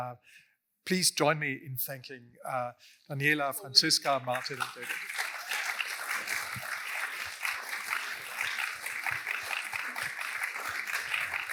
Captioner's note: applause